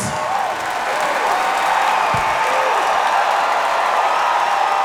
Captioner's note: audience cheering